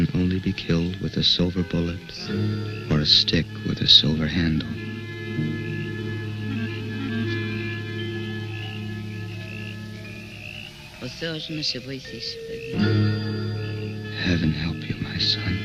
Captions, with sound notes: silver bullet, or a stick with a silver handle. (speaking in foreign language) Heaven help you my son.